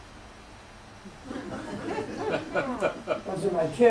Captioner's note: laughter